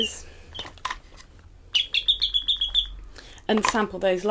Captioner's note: twittering bird sounds